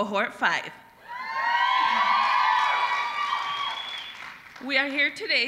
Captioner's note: applause